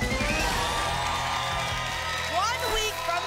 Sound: applause and cheering

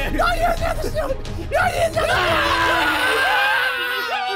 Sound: screaming

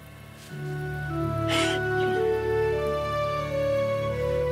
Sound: Grace crying

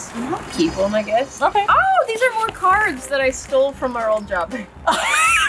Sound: excitedly; wheeze laughs

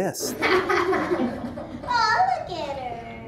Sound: laughter

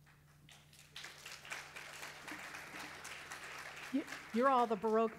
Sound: crowd applauding

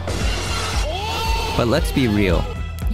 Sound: crash noise; crowd recoiling and ooh-ing

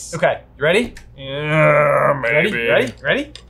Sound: grumbling

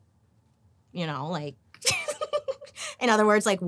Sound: laughing

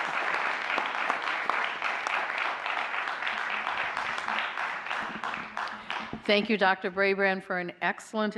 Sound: applause

